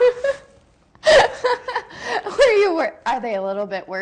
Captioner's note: both laughing